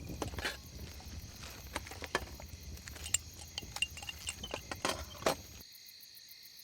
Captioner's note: cans clinking